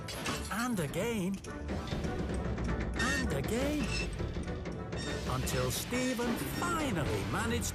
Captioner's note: none